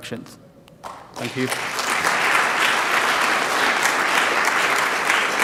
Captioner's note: applause